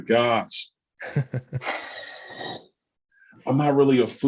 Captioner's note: chuckles